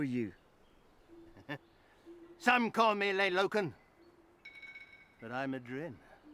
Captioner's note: laughs